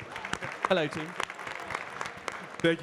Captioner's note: audience clapping